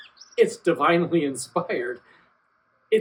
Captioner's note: laughs